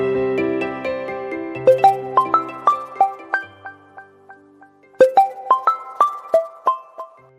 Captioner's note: phone-ringing